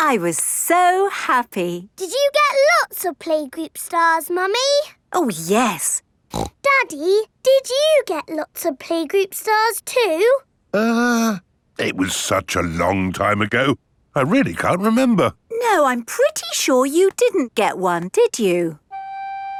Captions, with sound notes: I was so happy. Did you get lots of playgroup stars, Mummy? Oh, yes! (SNORTS) Daddy, did you get lots of playgroup stars too? Uh... It was such a long time ago... I really can't remember. No I'm pretty sure you didn't get one, did you?